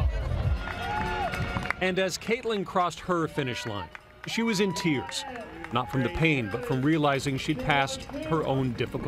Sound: cheering and applause

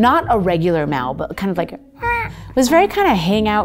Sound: meows gently

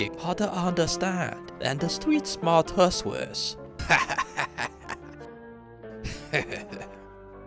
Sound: laughter

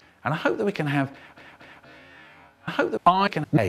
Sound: deep breathing

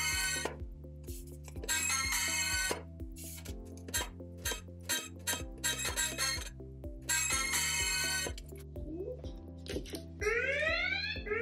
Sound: when box opens, musical alarm sounds; alarm sounds when box opens

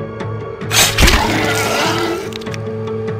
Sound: another scream

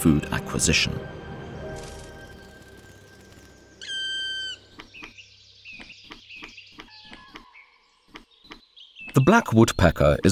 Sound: sounds of nature

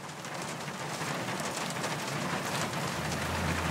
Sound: traffic sounds

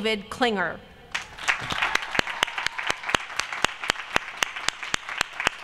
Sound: applause

